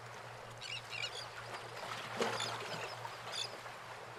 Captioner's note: birds squawking